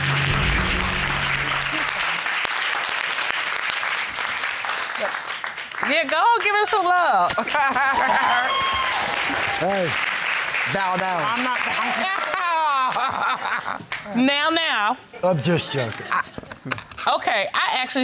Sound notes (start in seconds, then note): 0.0 audience applauding; 9.1 laughing; 13.5 laughing